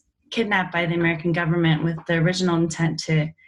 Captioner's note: none